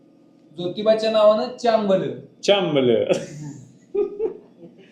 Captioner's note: speaking Marathi